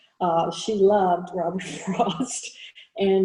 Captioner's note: chuckles